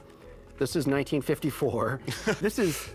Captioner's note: laughs